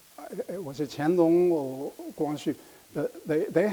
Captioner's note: speaking in foreign language